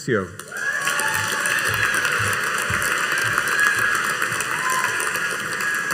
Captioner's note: audience cheering and applauding